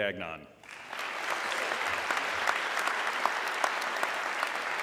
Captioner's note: audience clapping